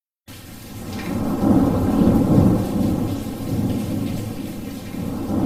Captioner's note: raining; thunder rumbles